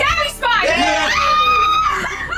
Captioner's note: cheering